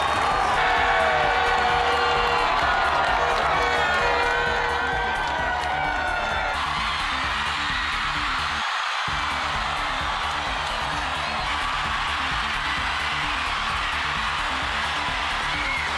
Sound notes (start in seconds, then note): 0.1 cheering and Applause; 4.6 crowd Noise; 9.2 horns; 12.0 crowd Noise; 14.3 cheering and Applause